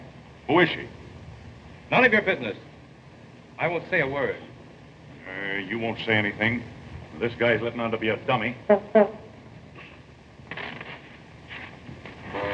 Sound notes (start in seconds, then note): 8.7 horn tooting